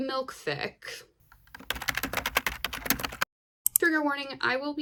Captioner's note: typing sounds